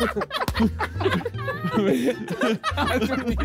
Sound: all laughing

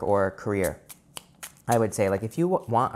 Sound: cards flipping

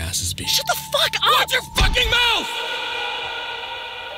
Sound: slams

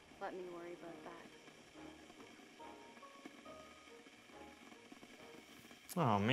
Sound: water starts boiling... Boiling sound throughout the scene

